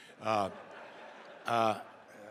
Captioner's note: laughter